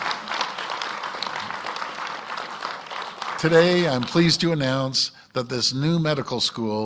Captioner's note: applause